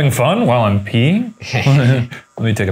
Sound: chuckles

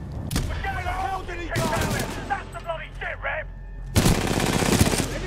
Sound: radio

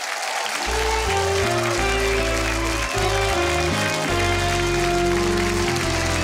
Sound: audience applauds and cheers

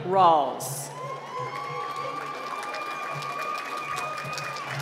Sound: applause

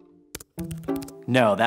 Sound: keyboard clicking

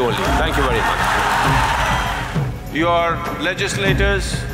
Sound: cheers

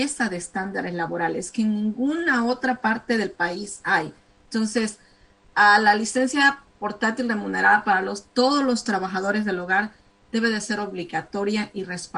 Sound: speaking spanish

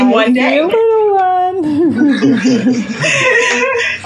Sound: laughs

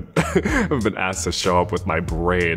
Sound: chuckles

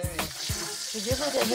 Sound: water running

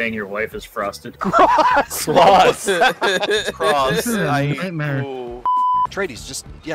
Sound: group laughter

